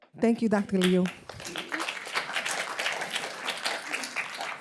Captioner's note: applause